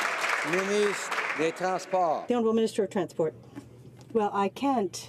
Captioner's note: some Applause